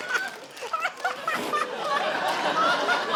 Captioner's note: laughter continues